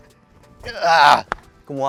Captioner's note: grunts